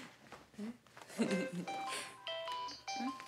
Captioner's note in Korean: 휴대전화벨 소리